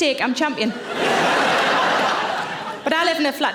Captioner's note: audience laughing